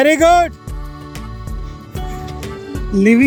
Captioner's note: speaking in foreign language